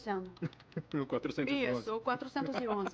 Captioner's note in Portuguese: risos